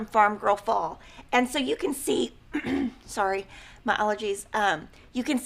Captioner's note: clears throat